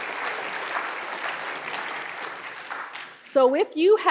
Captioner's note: applause